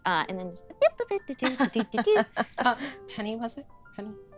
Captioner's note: humming